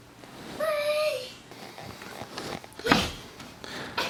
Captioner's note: cooing